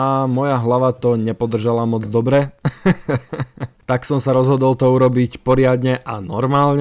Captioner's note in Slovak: smiech